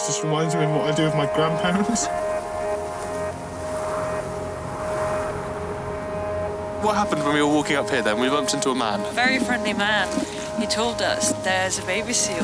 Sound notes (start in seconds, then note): 2.6 wind noise